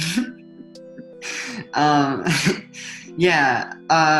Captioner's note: chuckles